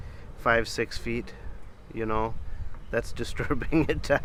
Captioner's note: chuckles